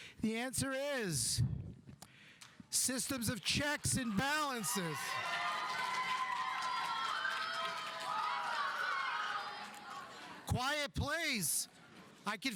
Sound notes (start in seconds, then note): 5.5 audience applauding; 5.5 audience cheering